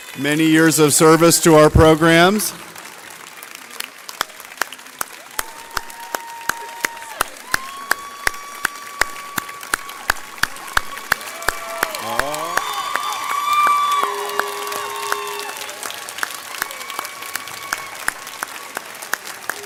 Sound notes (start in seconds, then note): 3.8 audience cheers